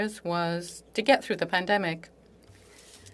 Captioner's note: speaking French